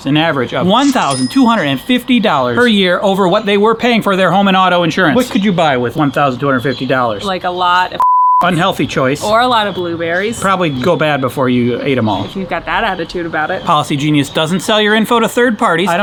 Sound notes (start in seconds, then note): 8.0 beep